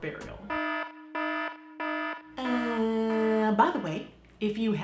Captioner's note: alarm blaring